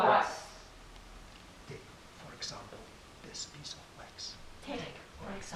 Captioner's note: whispering